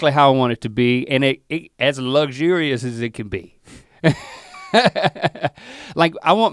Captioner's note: laughs